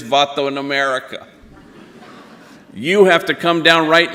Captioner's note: audience laughing